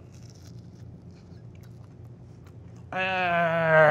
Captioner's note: sandwich crunches